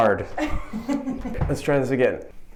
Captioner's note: laughing